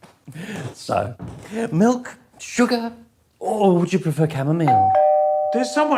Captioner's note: doorbell rings